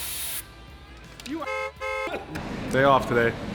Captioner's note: car horn honks